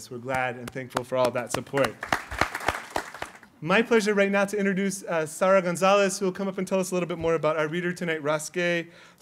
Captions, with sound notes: We're glad and thankful for all that support. [APPLAUSE] My pleasure right now to introduce Sarah Gonzalez, who will come up and tell us a little bit more about our reader tonight, Ross Gay.